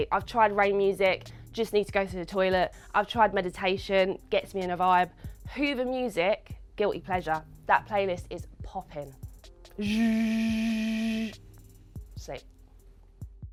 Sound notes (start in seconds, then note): 9.8 mimicking hoover music